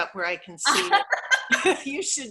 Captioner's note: laughs